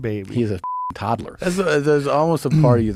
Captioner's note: beep